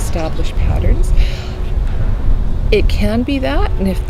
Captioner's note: wind blowing